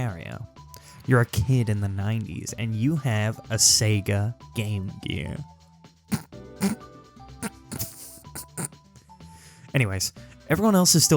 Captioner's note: holds laughter